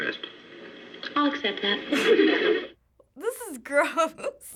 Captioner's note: audience laughs